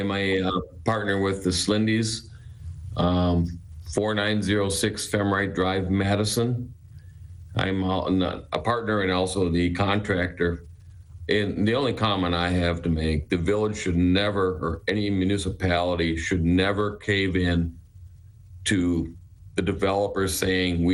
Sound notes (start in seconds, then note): none